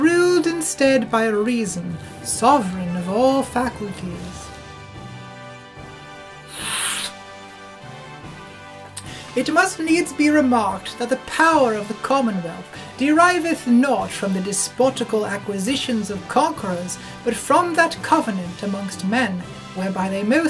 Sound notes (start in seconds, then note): 6.4 sniff